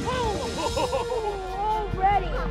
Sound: exploding; distant laughing and talking

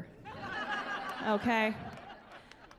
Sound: laughing

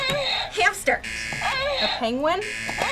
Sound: buzzer moans

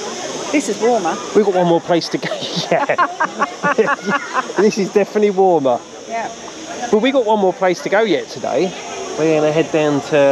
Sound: laughter

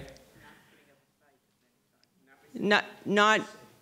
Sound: audience member murmuring

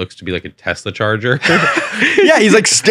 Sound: both laughing

